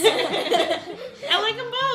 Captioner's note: laughing